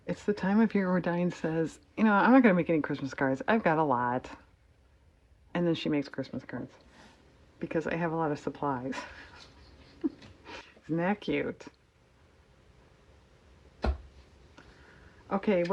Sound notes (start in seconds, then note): 8.9 laughs